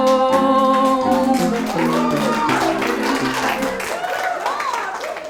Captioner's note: everyone cheers and claps